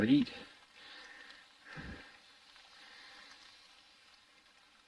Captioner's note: rain pattering